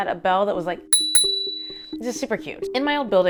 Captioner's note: ding ding